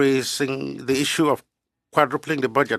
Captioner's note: speaking French